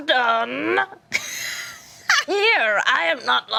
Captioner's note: laughing